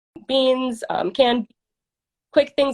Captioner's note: faintly speaking